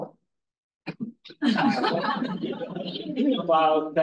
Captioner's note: audience laughs